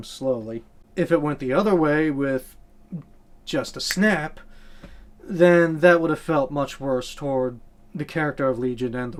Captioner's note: snap